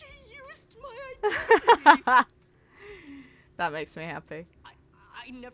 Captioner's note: laughs